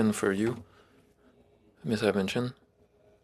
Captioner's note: speaking French